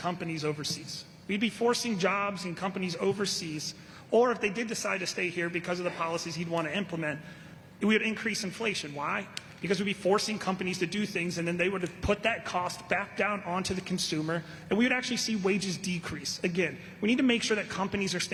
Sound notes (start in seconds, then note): none